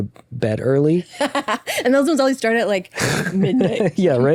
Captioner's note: laughs